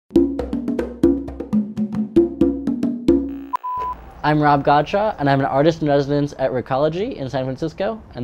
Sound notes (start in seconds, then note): 3.3 beep